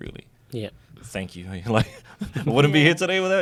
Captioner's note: laughs